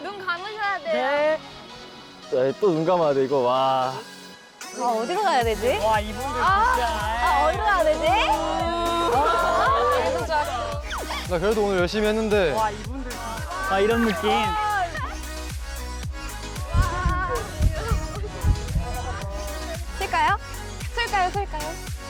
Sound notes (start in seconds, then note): 16.5 thumping heart